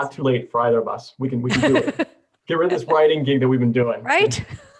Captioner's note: laughter